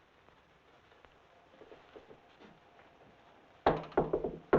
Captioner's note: handle rattling; fist rapping